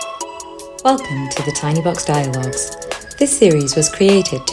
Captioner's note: voiceover